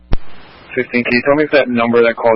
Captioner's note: radio traffic